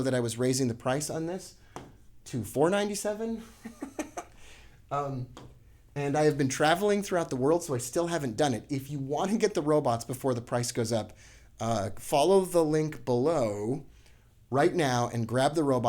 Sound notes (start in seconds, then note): 3.4 chuckling